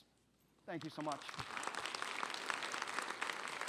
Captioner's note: audience applause